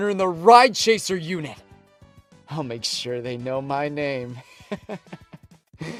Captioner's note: chuckles